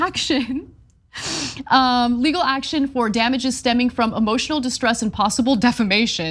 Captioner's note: laugh